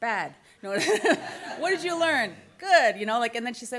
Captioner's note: laughs